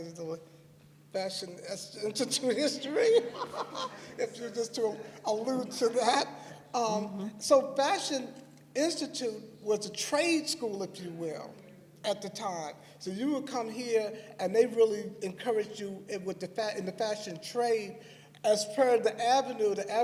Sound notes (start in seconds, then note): 9.6 laughter